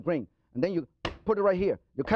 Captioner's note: slams knife